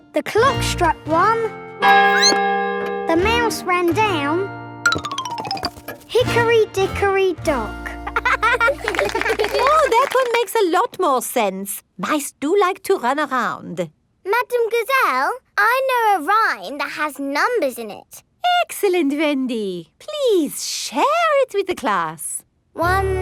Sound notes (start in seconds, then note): 2.0 squeaks; 2.1 clock chimes; 8.1 laughing